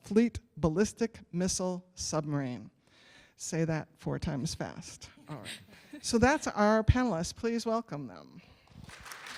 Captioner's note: applause